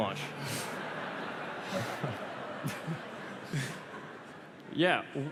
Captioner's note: laughter